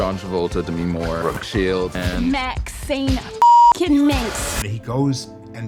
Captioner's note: beep